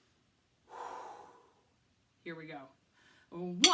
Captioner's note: exhales heavily